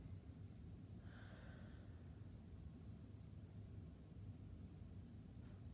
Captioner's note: breathing deeply